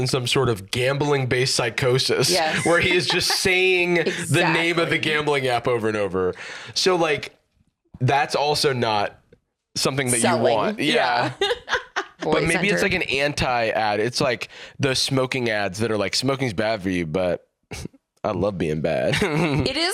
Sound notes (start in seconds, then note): 10.2 laughs